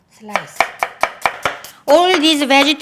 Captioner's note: knife chopping